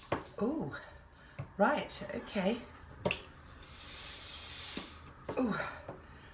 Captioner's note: air hissing